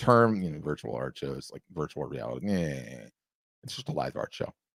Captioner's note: scoffs